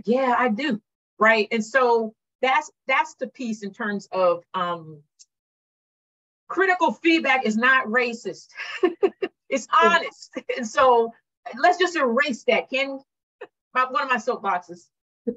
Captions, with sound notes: "Yes, I do." That's the piece in terms of-- Critical feedback is not racist. [chuckles] It's honest. Let's just erase that, can we? One of my soapboxes.